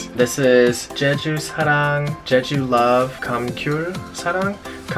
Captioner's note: speaks Korean